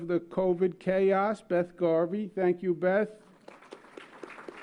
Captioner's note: applause